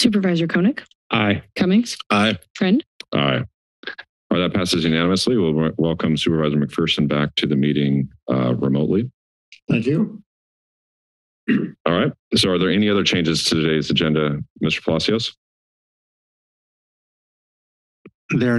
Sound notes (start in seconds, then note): 11.5 clears throat; 16.2 silence